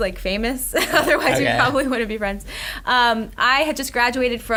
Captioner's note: laughs